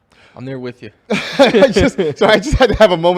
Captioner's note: laughs